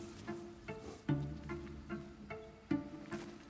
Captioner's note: grass rustling